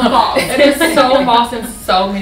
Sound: laughter

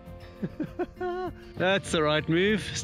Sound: laughs

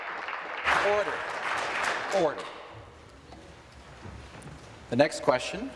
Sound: applause

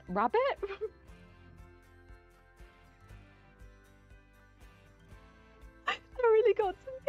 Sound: laughing silently

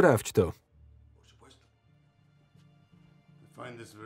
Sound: speaking in Spanish

